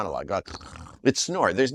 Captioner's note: snores